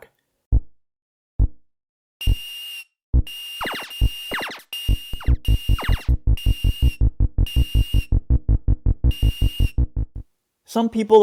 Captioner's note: Space Invaders audio